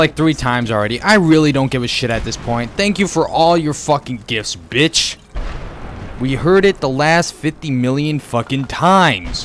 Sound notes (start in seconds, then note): 3.7 boom